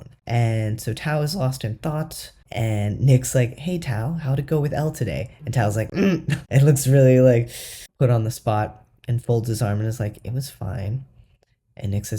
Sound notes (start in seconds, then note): 6.5 alarmed